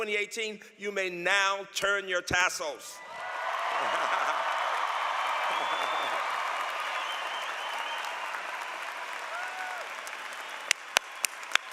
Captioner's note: laughter